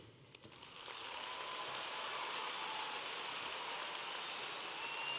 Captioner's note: audience applauding